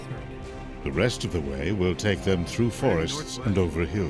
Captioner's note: voiceover